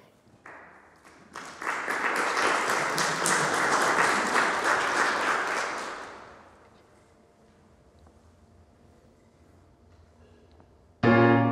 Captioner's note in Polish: oklaski